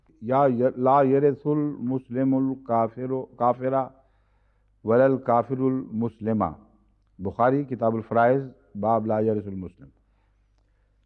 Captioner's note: Arabic